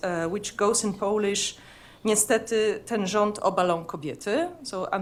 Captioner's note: speaking polish